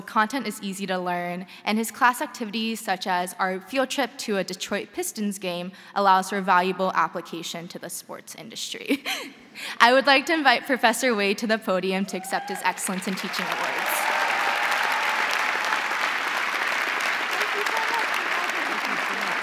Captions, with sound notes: so content is easy to learn and his class activities such as our field trip to a Detroit Pistons game allows for valuable application to the sports industry." (chuckles) I would like to invite Professor Wade to the podium to accept his Excellence In teaching Award. (crowd cheering) (crowd applauding)